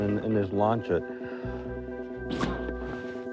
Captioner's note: blows